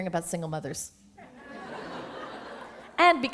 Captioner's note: laughter